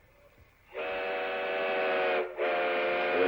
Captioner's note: train whistles